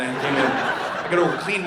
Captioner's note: audience laughing